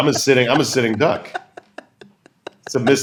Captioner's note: laughter